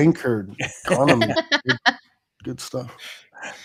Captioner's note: laughing